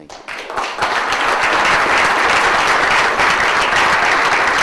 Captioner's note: audience applauds